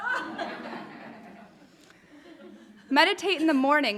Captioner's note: audience laughing